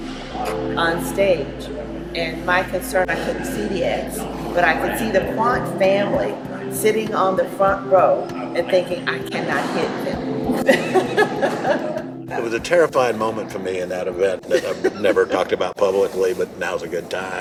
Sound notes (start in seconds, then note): 10.5 laughs